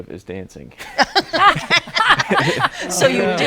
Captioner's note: all laughing